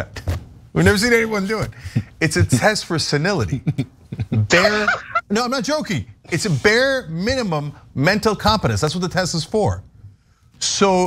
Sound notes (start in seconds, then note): 3.5 laugh